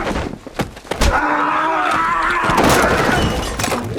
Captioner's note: grunting, screaming